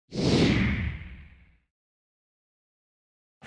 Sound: whoosh

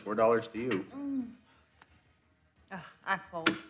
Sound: Debbie groans

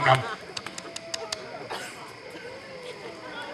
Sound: WOLF smacks lips

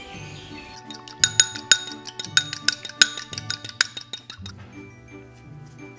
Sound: whisking egg

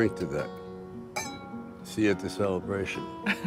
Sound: glasses clinking

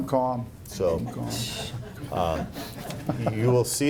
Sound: laughing

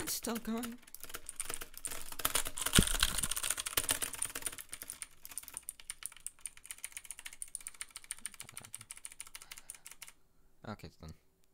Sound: slightly less intense keyboard pressing

